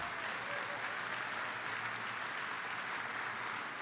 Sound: applause

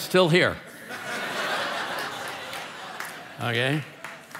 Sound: congregation laughing

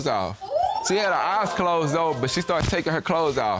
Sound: audience exclaim

